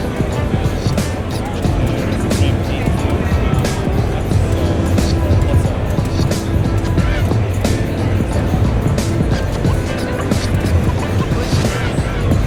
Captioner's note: crowd chattering